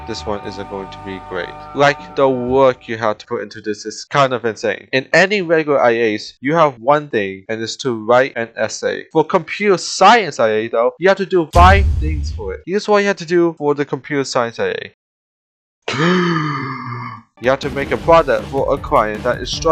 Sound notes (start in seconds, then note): 15.9 inhale